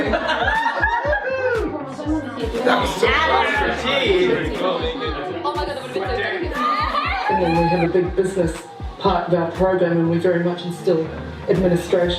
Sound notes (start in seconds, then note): 0.0 laughter, whooping; 2.5 excited chatter